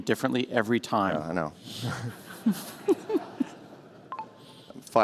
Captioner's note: laughter